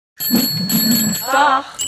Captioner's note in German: Fahrradklingel